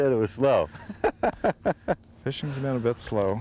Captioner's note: laughter